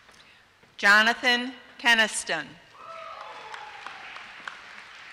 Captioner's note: applause